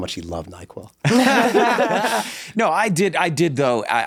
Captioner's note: everyone laughs